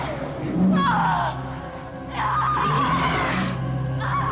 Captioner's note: screams